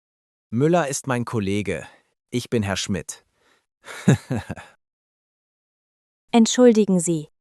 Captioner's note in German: lacht